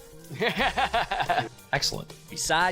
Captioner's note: laughing